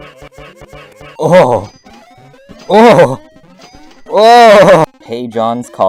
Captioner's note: sounds of pure joy because he can buy moar munz